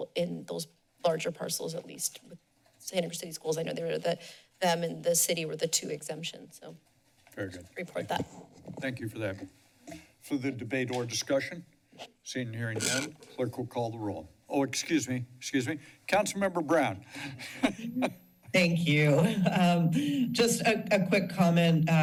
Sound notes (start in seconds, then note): 17.2 laughs; 19.2 chuckles